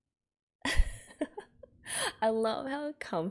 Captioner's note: laughs